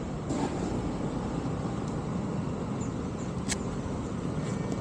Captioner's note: background road noise; engine stops